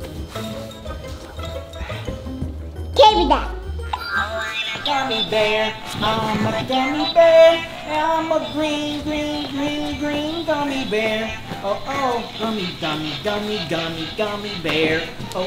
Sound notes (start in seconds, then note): 3.8 magic sound